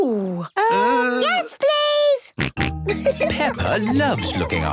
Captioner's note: snorting and giggling